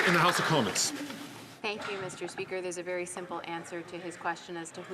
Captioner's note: some Applause